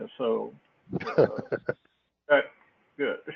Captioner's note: laugh